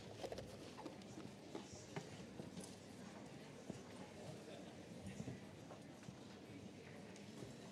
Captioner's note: general chatter